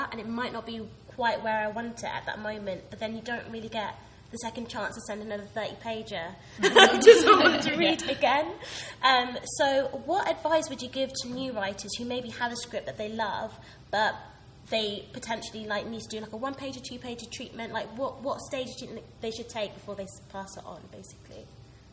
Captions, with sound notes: and it might not be quite where I want it at that moment, but then you don't really get the second chance to send another 30 pager (laughing) to someone to read again. So what advice would you give to new writers who maybe have a script that they love but they potentially might need to do a one pager or two pager treatment? What stage they should take before they pass it on, basically?